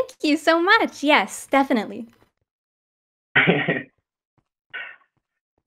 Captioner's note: chuckles